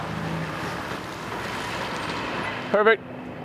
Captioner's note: vehicle engine